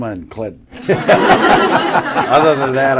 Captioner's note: laughter